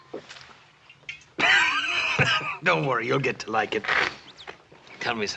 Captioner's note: laughing